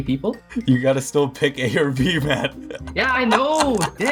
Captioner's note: laughs